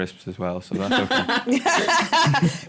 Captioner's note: laughter